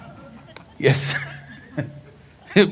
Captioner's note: few laugh; laughs